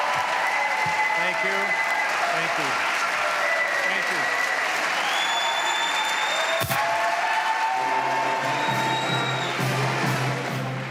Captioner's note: applause